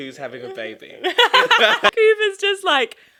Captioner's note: laughing